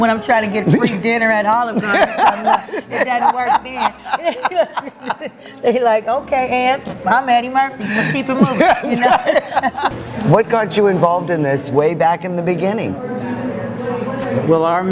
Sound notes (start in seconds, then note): 4.1 laughter